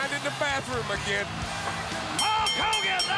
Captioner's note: bell ringing